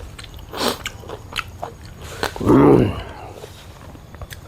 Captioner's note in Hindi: नाक से की जाने वाली आवाज़